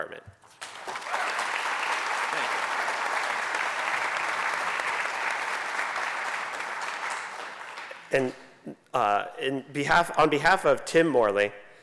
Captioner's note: applause